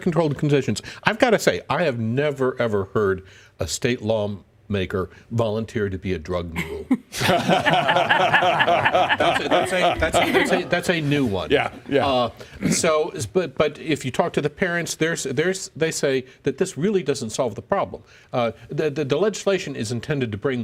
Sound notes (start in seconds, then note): 6.6 laughter